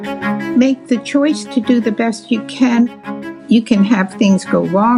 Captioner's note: pat